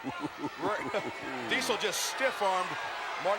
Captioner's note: Ted chuckles